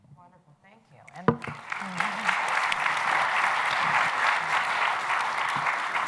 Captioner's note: applause